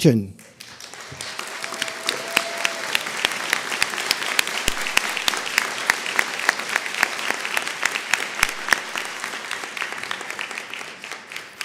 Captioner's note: applause